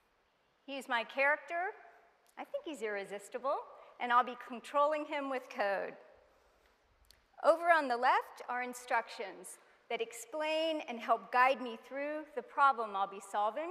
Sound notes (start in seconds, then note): none